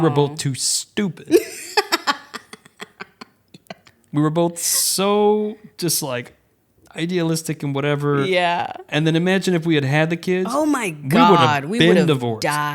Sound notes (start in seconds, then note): 1.3 laughs